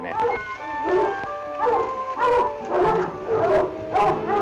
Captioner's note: dogs bark